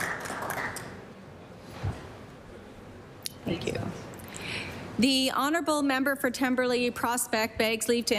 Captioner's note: applause